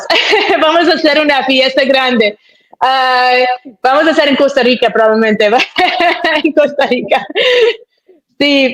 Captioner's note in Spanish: risas